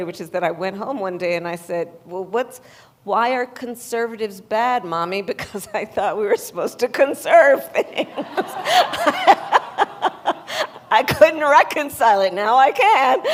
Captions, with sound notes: which is that I went home one day, and I said, "Well, what's -- why are conservatives bad, Mommy?" Because I thought we were supposed to conserve things. (Laughter.) I couldn't reconcile it. Now I can.